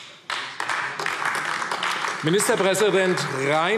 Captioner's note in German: Beifall AfD